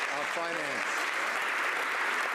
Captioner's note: some Applause